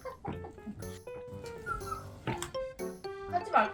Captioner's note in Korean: 칭얼